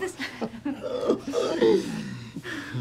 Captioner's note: chuckling